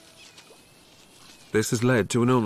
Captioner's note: none